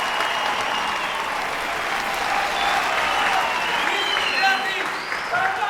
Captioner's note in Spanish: Gritos y exclamaciones; Silbidos